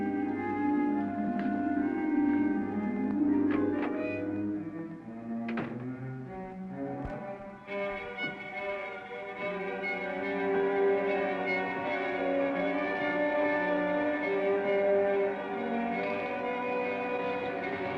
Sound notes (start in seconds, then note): 3.0 door clicks; 3.2 dramatic music